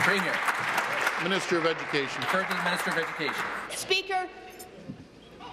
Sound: applause

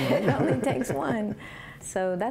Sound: laughter

